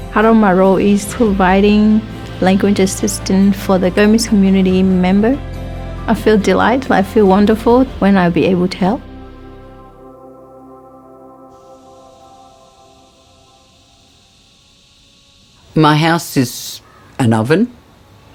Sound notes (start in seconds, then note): 9.7 gentle uplifting music; 10.5 bugs chirping